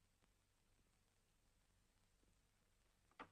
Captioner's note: door closes